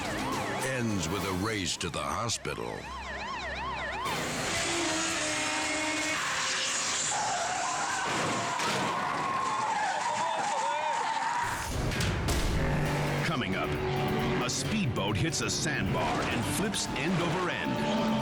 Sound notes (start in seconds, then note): 4.0 motorcycles revving; 7.0 tires skidding; 8.0 car thudding